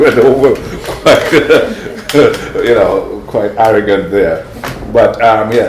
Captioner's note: laughter